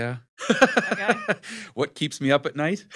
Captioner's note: laughs